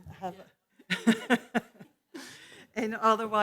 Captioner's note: laughs loudly